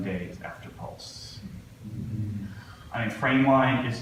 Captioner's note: audience gasps